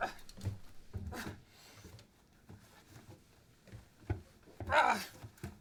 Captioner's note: Merrill 2 grunts